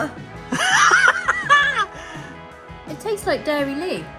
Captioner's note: laughing